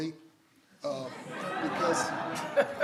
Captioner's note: everyone laughs